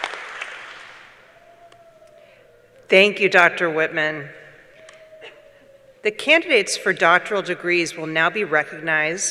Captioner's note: applause